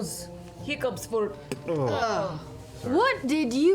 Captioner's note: spits